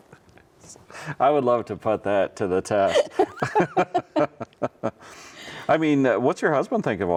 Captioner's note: both laugh; laughs